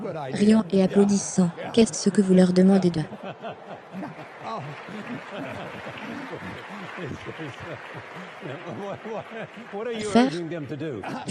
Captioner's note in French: riant et applaudissant